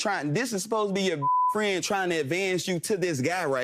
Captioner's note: beeping